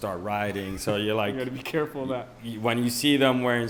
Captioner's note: laughs